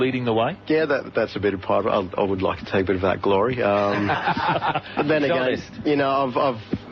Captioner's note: group laugh